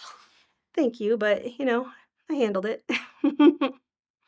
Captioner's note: laughing